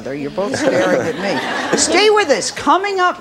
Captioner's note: audience laughs